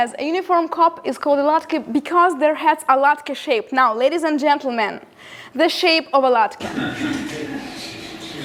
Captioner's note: laughter